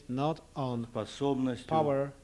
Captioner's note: non-english speech